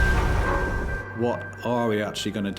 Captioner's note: waves crashing; dramatic music